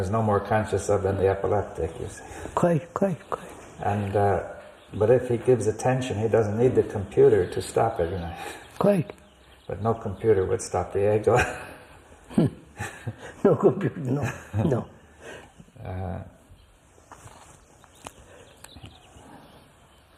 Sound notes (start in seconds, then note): 10.9 laughs